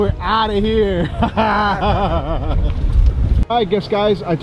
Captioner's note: laughing